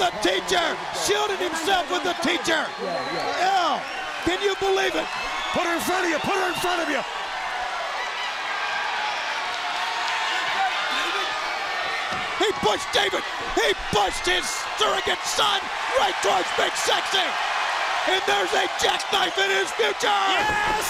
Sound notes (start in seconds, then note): 6.2 crowd chatter; 13.5 crowd cheering